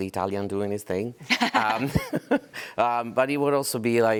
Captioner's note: laughter